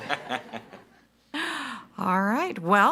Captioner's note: participants laughing